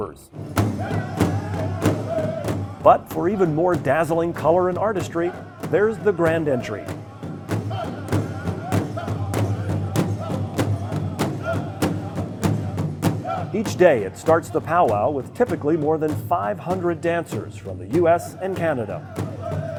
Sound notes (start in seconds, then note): 0.2 drums beating; 7.1 drums beating; 7.3 dancers exclaiming